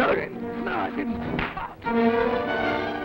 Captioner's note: smack